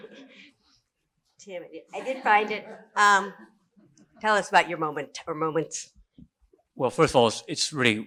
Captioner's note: laughs